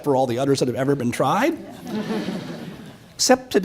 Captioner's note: audience chuckles